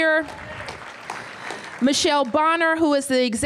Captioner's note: applause